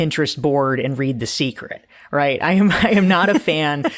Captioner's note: laughing